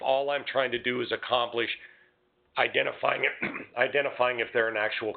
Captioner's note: clears throat